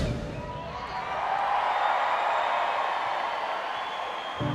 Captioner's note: crowd cheering